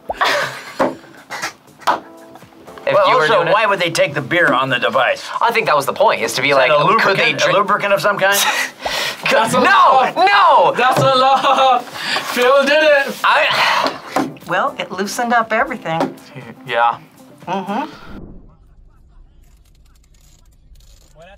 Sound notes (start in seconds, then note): 0.1 laughs; 11.1 laughs; 13.4 sighs